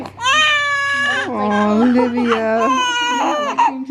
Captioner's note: crying